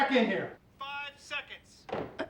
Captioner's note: on phone